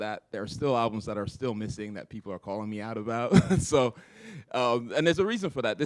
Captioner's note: chuckle